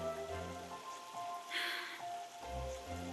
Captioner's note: sighs